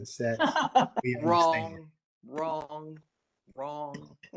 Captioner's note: laughter